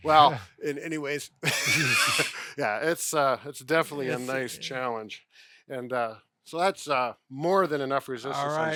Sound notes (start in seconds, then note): 1.4 laughter